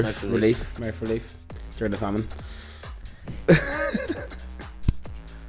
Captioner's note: laughs